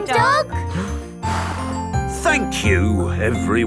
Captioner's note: blows